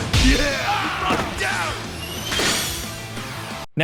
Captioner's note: opponent groans; upbeat music